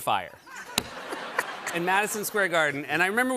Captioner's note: laughter